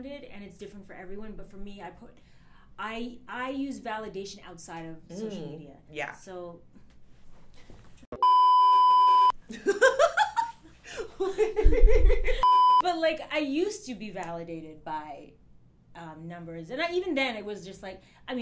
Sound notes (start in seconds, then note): 8.2 beep; 10.9 laughs